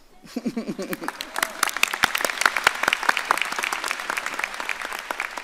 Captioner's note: audience applauding